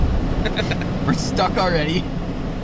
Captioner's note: laughs